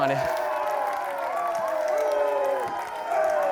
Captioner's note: crowd cheering and applauding